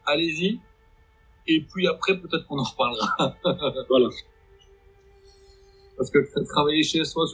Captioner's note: laughs